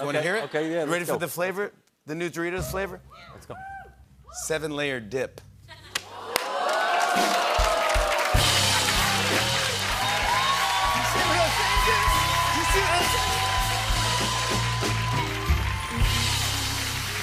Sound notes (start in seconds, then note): 2.7 drumroll; 5.8 cheers and applause